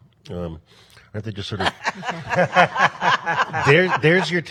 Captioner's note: laughs